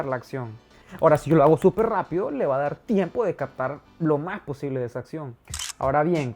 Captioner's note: fast shutter